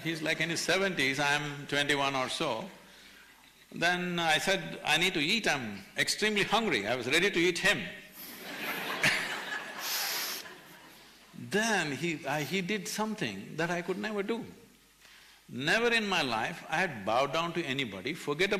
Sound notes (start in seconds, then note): 8.2 laughter